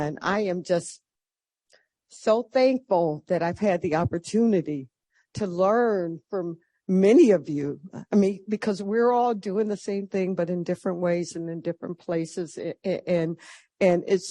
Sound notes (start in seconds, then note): none